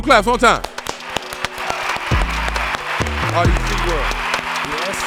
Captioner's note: audience applauding and cheering